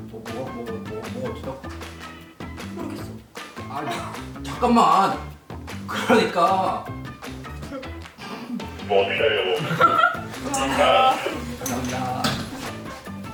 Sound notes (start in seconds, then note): 7.5 bursting into laughter